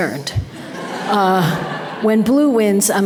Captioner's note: audience laughter